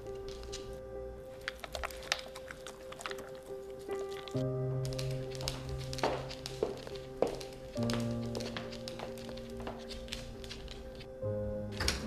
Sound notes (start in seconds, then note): 1.6 licking; 6.8 footsteps